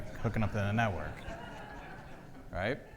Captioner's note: audience laughs